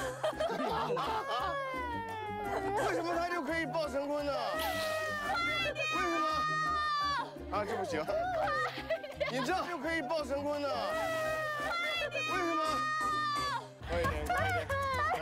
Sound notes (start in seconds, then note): 7.5 crying but no feedback